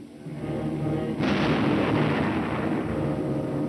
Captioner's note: gunshots